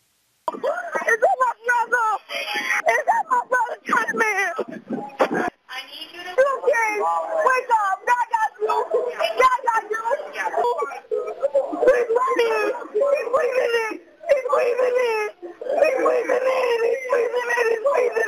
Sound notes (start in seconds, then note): 0.0 cryin